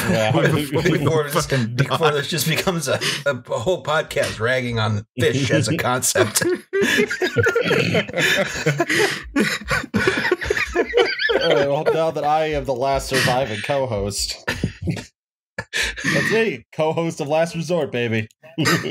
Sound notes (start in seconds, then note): 5.2 laughter; 12.3 laughter; 14.5 laughter